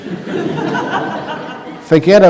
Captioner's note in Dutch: gelach